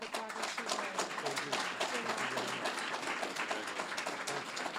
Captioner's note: applause